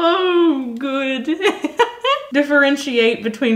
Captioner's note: laughing